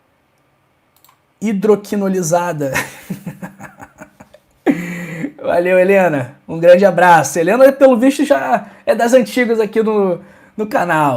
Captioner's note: laughs